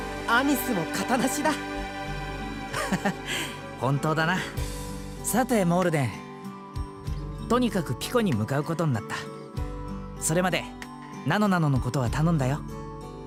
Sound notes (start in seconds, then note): 2.7 laugh